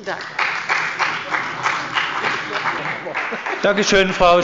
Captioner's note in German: Beifall bei der CDU und dem BÜNDNIS 90/DIE GRÜNEN